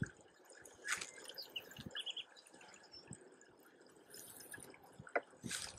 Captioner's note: wind blowing, birds chirping